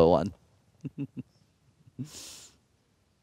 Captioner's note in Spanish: Risas